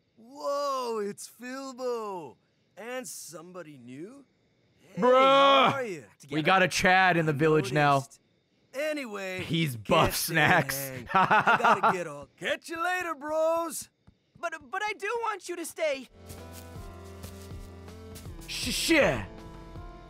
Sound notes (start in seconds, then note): 14.4 laughs